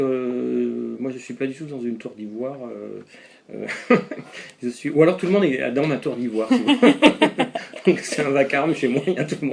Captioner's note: laughs